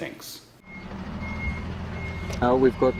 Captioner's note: truck beeping